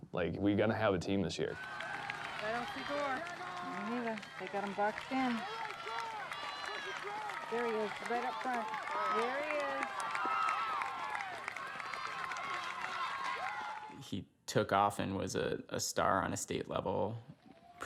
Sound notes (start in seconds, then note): 10.0 cheering